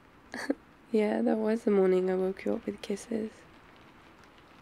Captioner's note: laughs